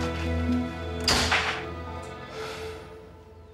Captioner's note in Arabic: يغلق الباب